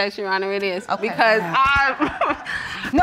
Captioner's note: laughs